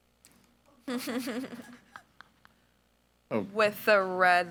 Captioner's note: group laughs